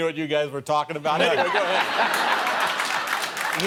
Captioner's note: laughter